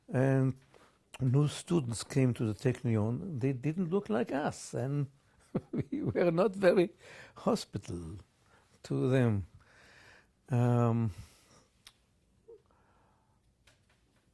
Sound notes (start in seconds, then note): 5.4 laughs; 9.9 pauses for 6 seconds